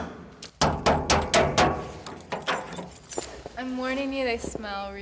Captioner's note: banging